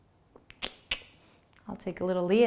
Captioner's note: clicking tongue